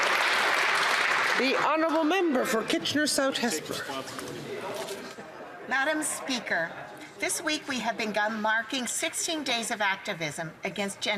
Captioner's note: some Applause